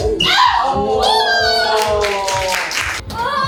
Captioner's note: applauding for doing well